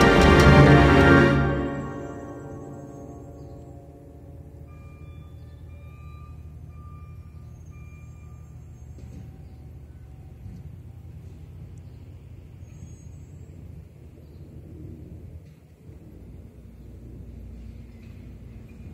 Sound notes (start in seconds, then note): 2.4 no music, truck braking and backing up; 10.7 ambient outdoor sounds